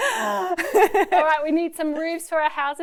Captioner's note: laughing